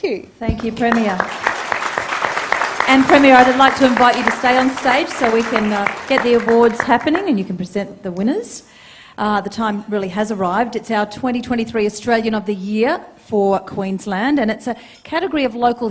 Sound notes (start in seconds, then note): 3.6 applause